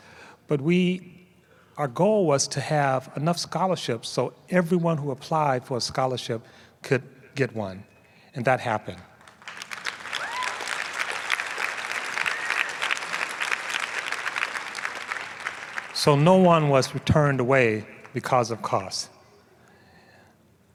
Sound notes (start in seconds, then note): 9.2 applause